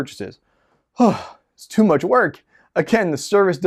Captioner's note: sighs